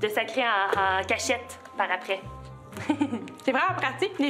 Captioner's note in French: rire